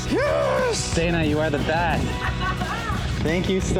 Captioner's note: laughs